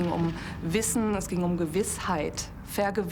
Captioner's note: speaking German